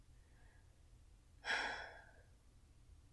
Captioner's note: sigh